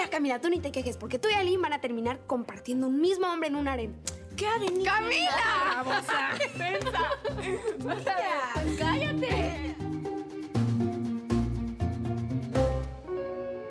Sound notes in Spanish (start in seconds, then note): 4.7 exclamaciones y risas